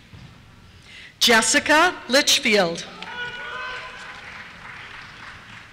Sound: cheers

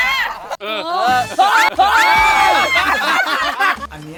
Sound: screams; laughs

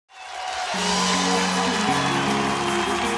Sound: audience applauds

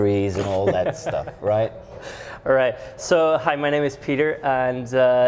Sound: laughs

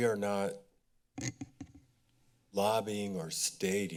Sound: mic rustling

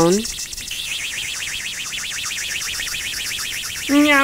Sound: rocket engine

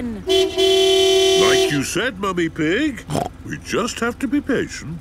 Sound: honking; snorts

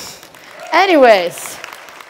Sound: applause

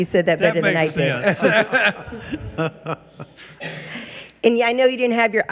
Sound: laughing

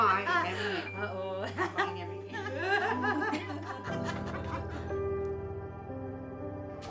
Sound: ladies laughing

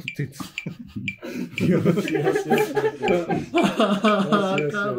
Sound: laughing

